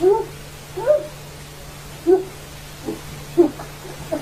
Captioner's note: groaning